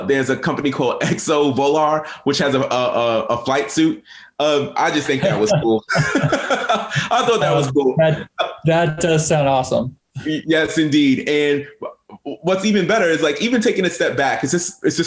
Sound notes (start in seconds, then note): 5.2 both chuckling; 8.2 chuckling